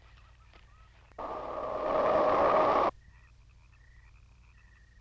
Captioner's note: wind rushing